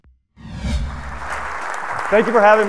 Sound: audience applauds

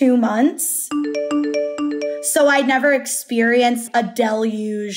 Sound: phone chiming

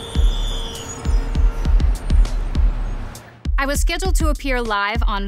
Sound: city sounds

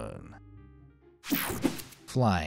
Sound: image whooshing

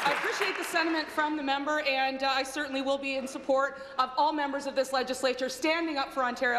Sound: applause

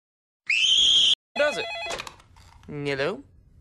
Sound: phone rings

